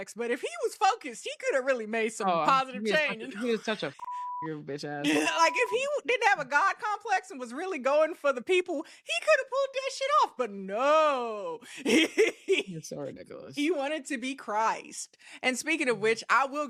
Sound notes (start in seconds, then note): 3.9 beep; 11.7 laughs